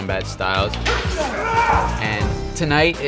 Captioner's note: students yelling